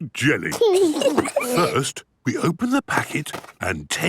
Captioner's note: giggles